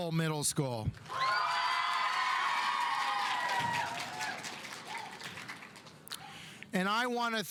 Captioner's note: audience cheering; audience applauding